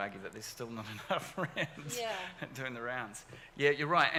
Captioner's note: laughs